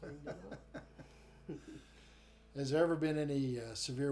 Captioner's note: chuckle